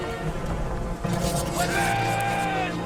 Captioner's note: swords unsheathing